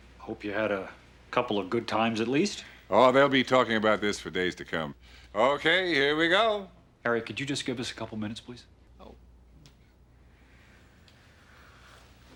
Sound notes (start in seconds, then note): none